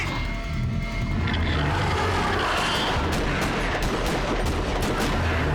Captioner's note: roaring